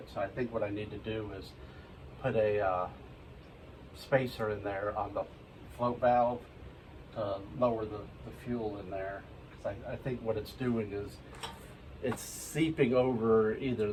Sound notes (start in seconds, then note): 3.1 washer